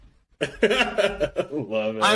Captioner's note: laughs